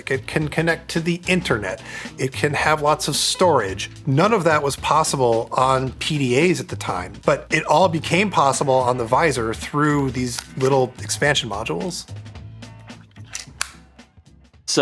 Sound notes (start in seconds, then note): 10.3 module clicking; 12.4 upbeat music